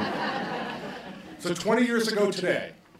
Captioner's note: laughter